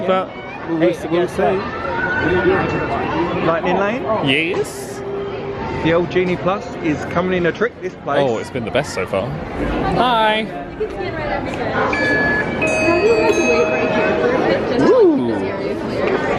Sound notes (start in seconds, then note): 11.9 machine beeps